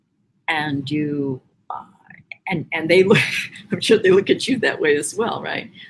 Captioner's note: laughs